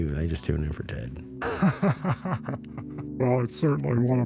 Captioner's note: Johnson Laughs